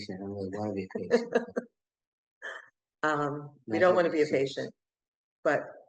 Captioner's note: laughter